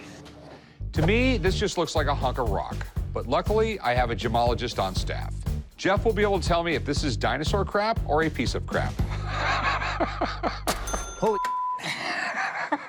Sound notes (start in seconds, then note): 9.0 laughs; 10.7 ding